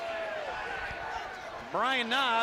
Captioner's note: crowd chatter